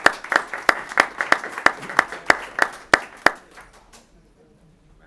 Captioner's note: applause